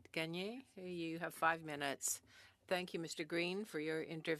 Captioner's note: speaking French